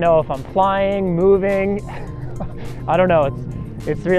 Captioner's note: laughs